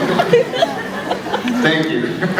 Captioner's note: laughs; scattered laughs